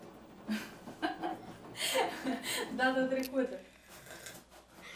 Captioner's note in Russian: Смеётся